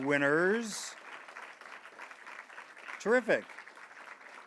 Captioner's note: audience applauds